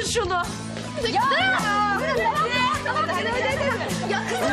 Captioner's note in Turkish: Bağırışmalar